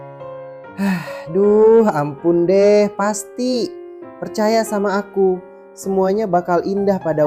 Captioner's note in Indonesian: terkesiap; menghela napas